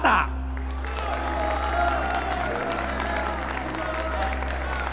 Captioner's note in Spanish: Vítores, aplausos